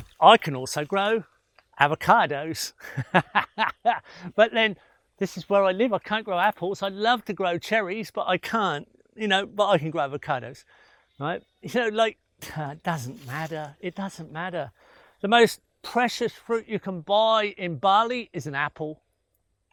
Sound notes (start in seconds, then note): 2.7 laughing